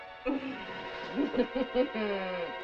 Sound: laughs

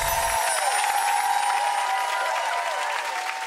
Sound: applause

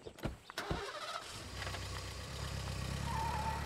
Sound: car engine starts

